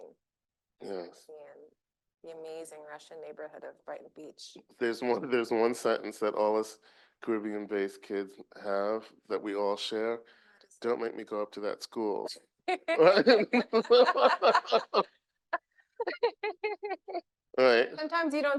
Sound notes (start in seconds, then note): 12.7 laughing